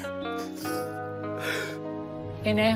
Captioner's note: sobs